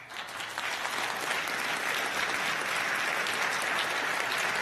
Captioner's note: crowd applauding